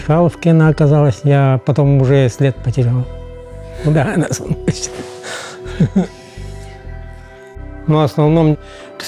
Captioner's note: laughs